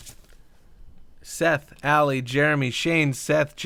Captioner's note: crew flips papers